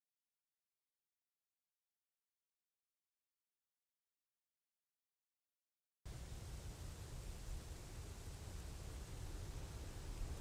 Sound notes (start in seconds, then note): 6.1 quiet sound of rustling leaves